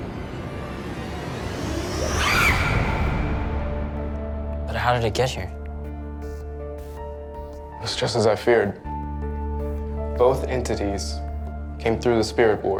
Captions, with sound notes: (screaming) - But how did it get here? - It's just as I feared. Both entities came through the spirit board.